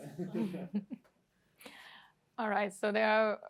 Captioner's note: laughter